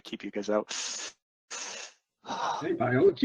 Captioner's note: sighs